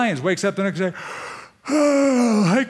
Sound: sighing

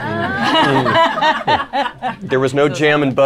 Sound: laughter

